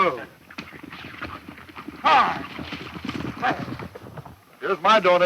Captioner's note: galloping hooves